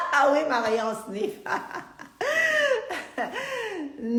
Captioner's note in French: Rires